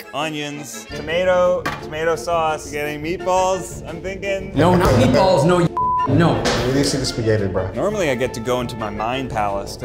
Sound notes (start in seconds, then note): 5.7 beeps